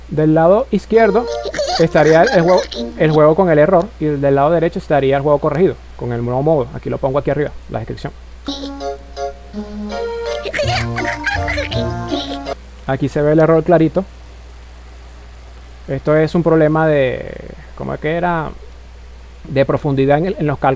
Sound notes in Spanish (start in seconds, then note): 11.9 lloros; 11.9 risas